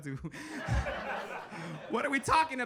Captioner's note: audience laughing